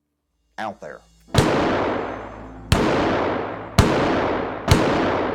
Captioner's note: gunshots